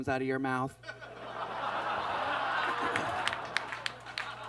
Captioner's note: audience laughs